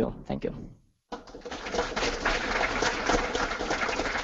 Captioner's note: applause